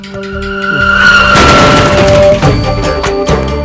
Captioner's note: sound of a bike crashing